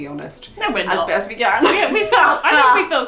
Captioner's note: laughs